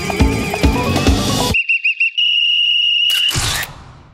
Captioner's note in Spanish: silbido